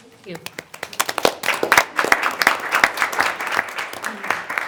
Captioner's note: everyone applauds